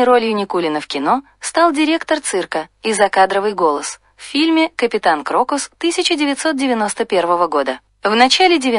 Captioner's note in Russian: и закадровый голос